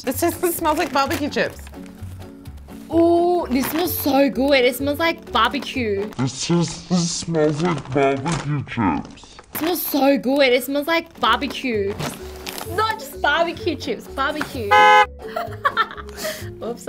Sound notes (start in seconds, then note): 14.7 horn honks; 15.3 laughs